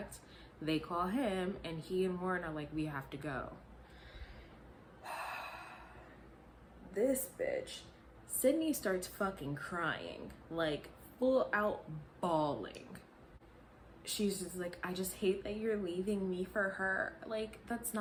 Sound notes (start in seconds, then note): 5.0 sigh